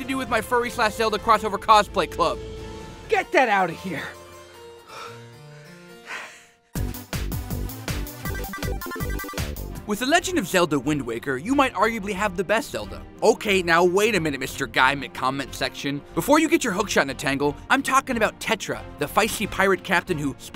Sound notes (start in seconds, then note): 4.6 heaves; 6.7 upbeat 8-bit music